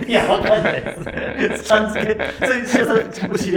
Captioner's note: laughing